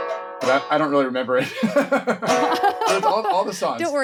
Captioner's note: laughing